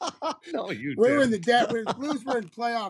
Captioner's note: laughter